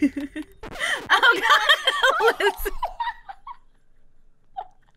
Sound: laughter

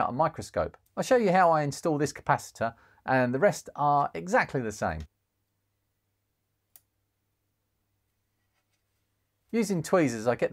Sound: clicking

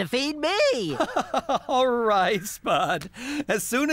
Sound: chuckling

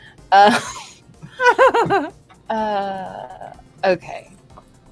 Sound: laughter

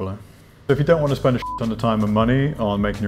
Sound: beep

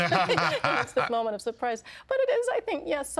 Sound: laughing

